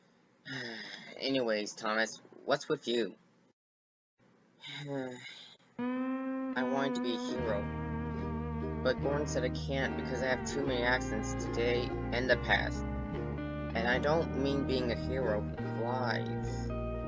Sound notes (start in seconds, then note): 0.4 sigh; 4.6 sigh